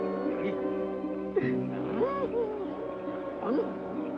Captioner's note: soldier laughs